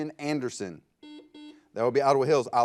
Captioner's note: buzzer